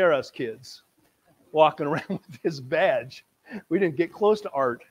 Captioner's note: laughing